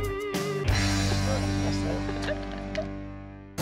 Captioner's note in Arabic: ضحك